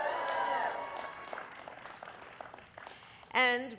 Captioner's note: applause